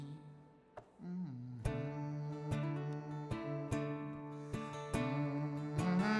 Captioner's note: hums with guitar